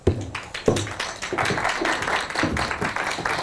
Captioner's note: applause